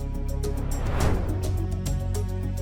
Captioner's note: suspenseful music continues; transition whooshing